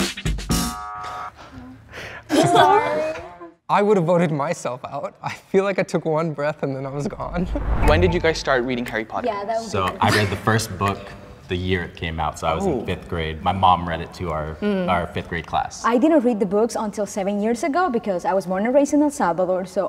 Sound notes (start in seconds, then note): 0.5 buzzer wails